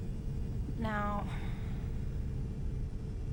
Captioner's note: sighs